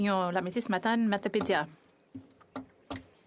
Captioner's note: speaking FRENCH